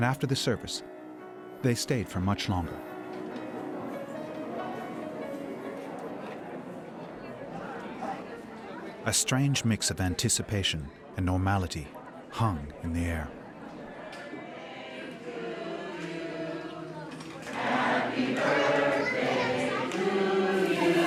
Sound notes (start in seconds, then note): 4.9 background talking